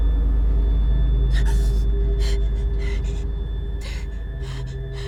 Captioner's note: gasping